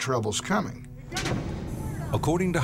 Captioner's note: explosion